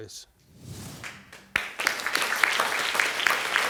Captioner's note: audience clapping